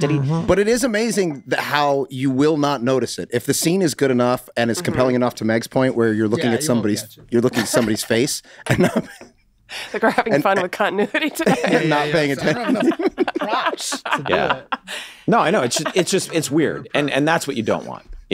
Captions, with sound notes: - But it is amazing that how you will not notice it. If the scene is good enough and is compelling enough, to Meg's point, where you're looking at somebody's face and not. (laughs) - I think we're having fun with continuity today. (all laughing) - No, I know, it's just, it's weird. And and that's what you don't want.